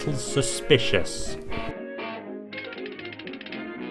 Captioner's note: honking